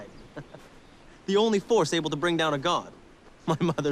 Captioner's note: laughs